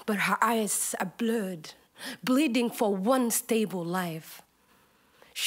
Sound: none

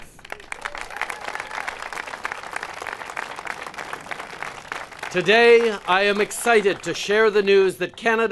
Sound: applause

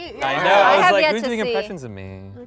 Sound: laughing

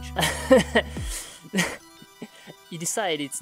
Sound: laughter

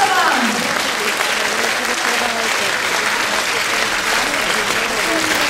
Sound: applause

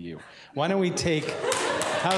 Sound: applause

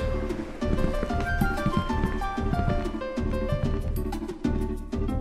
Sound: footsteps trailing off

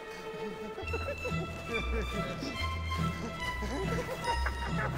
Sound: laughing

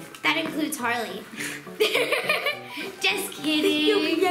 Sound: laughing

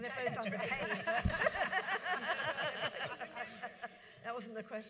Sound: audience laughs

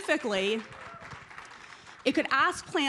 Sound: applause

